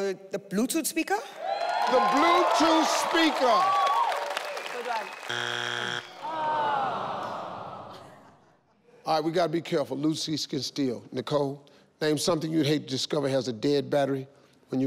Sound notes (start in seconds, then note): 2.2 crowd cheering; 7.0 disappointment in crowd